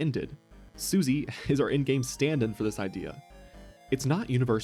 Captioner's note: exhale